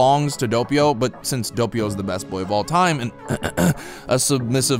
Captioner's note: ahem